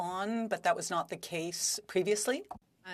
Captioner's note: speaking French